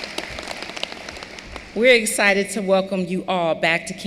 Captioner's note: applause